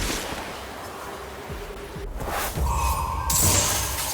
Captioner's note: wind blowing